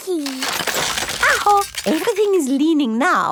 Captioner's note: house creaking